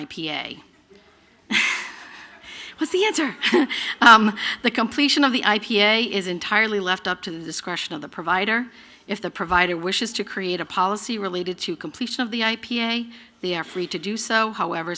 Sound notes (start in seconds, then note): 1.5 laughter